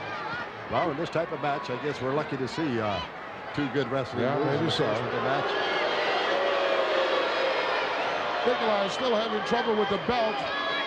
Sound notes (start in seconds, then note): 4.5 crowd booing